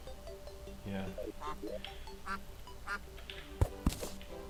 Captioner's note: ducks proceed to quack majesticaly